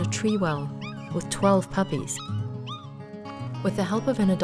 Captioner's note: puppy yapping